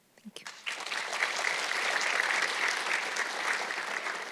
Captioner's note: audience clapping